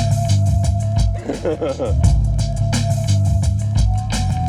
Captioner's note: laughing; funky beat